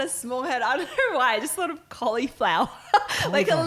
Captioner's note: laughing